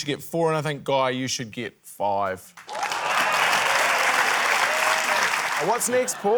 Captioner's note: cheering, applause